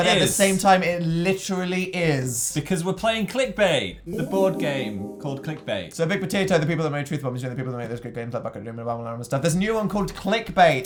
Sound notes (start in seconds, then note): none